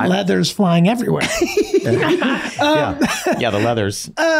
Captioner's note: Glenn laughing